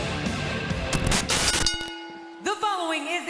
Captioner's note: upbeat rock music; screen hisses; bell rings